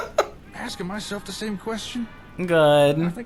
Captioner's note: laughs